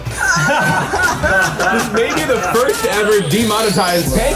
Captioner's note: everyone laughing